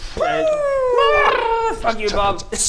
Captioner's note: brrrrrr!